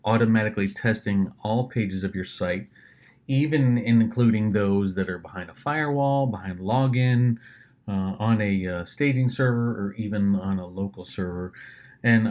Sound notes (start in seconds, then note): none